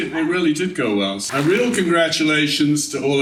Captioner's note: laughing